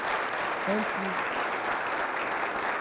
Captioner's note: applause